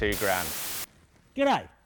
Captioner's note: transition hissing